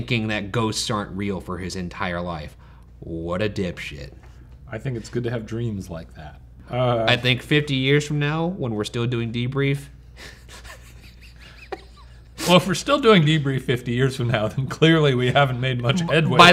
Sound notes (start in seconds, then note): 10.2 laughing